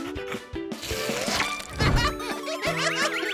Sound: laughing

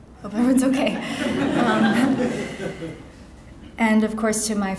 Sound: audience laughing

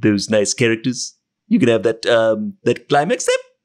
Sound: voice muffled

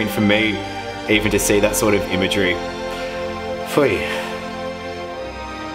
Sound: sighs

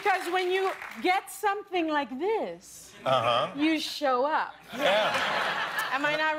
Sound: cheers and applause

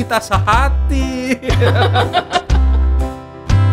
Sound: laughs

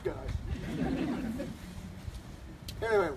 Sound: laughter

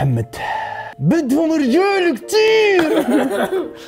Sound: mimicking Mohammad; laughs

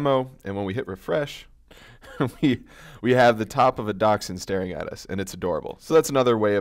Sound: laugh

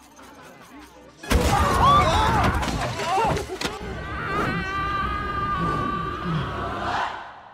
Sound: spooky bean screaming

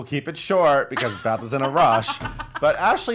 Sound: laughs

